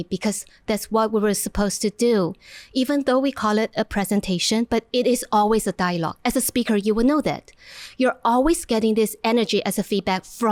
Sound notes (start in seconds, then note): none